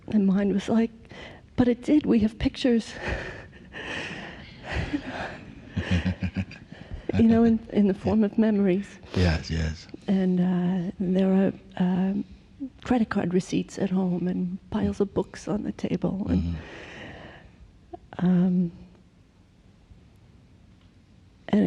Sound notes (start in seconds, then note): 5.7 laughs